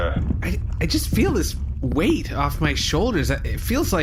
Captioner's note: hesitant